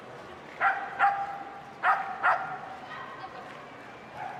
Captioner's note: dog barking